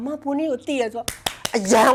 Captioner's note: claps